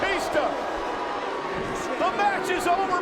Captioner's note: audience jeers